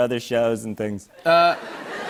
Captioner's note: laughter